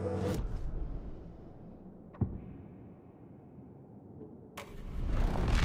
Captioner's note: thumping